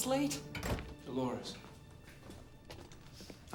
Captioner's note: door closes